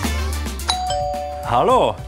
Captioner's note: ringing